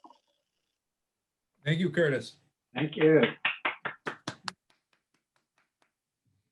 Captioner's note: applause